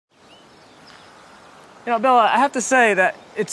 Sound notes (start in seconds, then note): 0.1 birds chirping